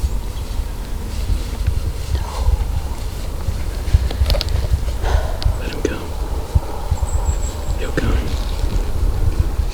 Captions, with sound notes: [Loud exhale] Let him come. He'll come.